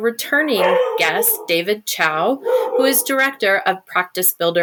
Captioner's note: dog barking; continued barking